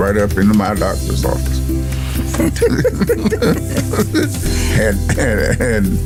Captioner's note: laughter